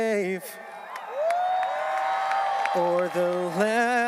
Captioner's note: audience cheering and applauding